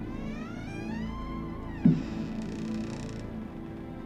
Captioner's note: door squeaks